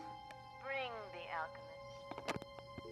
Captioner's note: dial tone humming